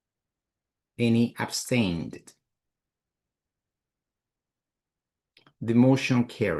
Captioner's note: silence